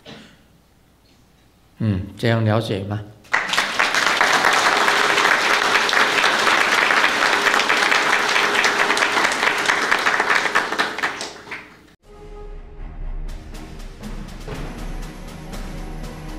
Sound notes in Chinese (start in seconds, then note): 7.3 眾鼓掌